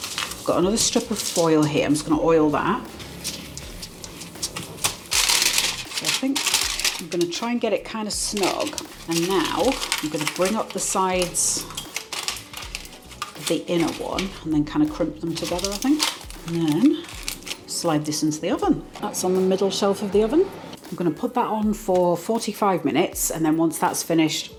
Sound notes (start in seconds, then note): 2.9 metallic brushing; 12.9 metallic crinkling